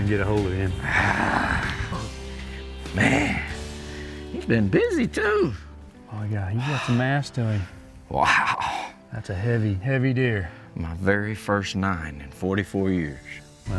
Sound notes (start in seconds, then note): 0.8 groaning